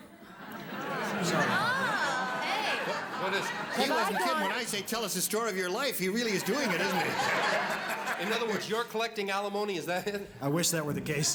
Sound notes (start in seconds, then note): 6.3 laughter